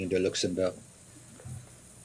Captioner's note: answers in French